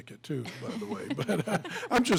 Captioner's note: laughing